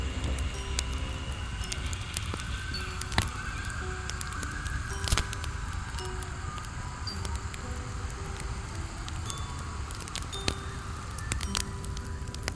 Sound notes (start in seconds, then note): 4.4 birds cackling in distance; 9.7 chimes music